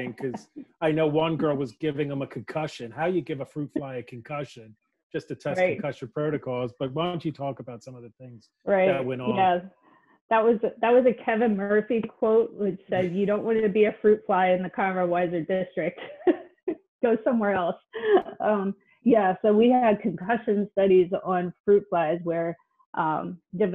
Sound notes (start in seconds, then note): 0.0 laughing; 16.5 laughs